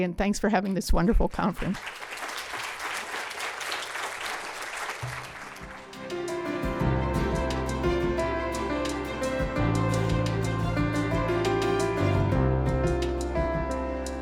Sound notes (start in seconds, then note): 1.6 applause